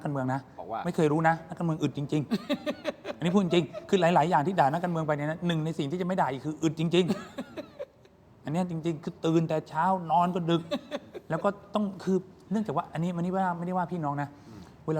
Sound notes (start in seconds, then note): 2.3 laughs